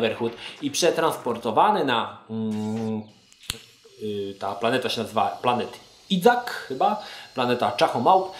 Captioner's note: stutters